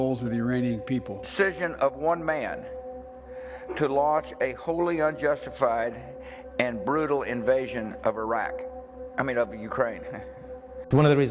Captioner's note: chuckles